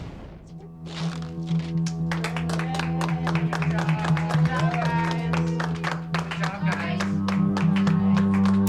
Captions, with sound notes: [applause] - Yay. Good job. Good job, guys. Good job, guys.